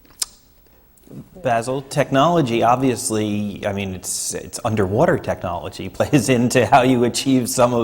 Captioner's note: laughs